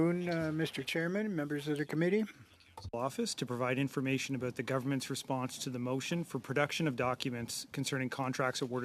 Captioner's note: speaking French